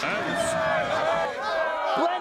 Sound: cheering

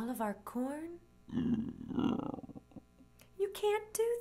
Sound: bear grumbles

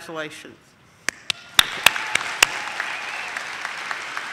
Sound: audience claps

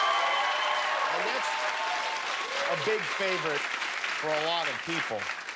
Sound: cheers and applause

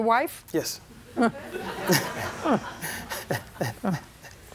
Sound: laughter

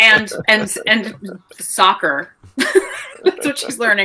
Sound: laughing

